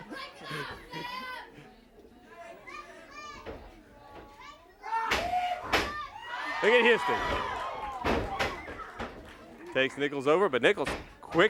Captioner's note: laughter